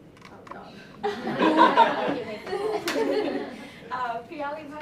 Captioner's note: laughter